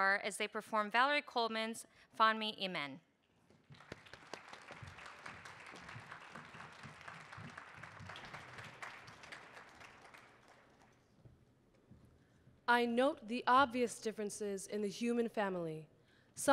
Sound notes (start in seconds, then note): 3.6 audience applauding